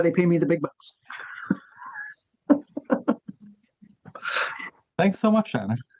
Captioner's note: laughing